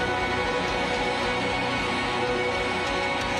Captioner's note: cheers and applause